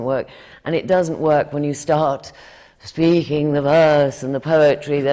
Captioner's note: does the “classical” voice